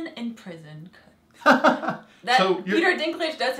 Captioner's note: laugh